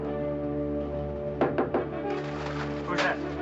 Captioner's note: knocking on door